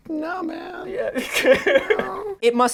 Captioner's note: laughing